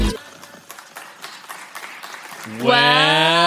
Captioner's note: clapping